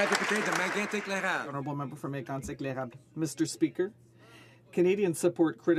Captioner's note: some Applause